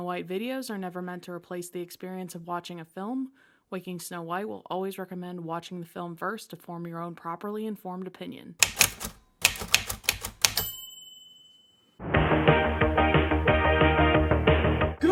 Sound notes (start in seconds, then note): 8.6 typewriter ASMR; 10.5 ding